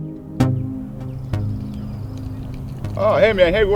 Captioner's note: birds chirping